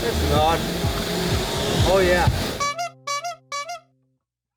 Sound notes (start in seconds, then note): 2.4 horn honking